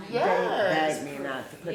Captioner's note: family members chatter